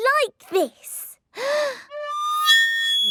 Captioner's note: off-key; inhaling deeply